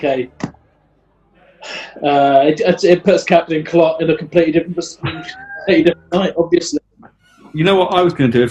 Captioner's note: sighs